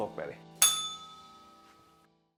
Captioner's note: bell rings